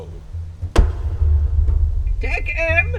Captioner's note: gavel rapping